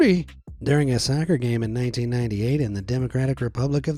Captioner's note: in normal voice